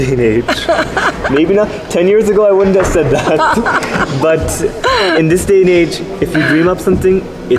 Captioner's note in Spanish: risas